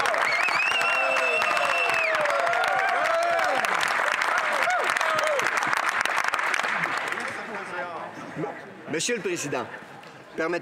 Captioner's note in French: applaudissements